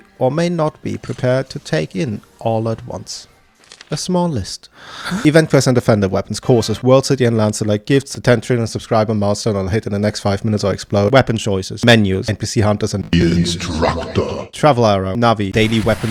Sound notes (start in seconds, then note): 4.8 inhales